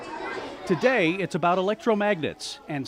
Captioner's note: children talking